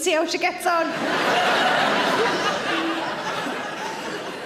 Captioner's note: audience laughs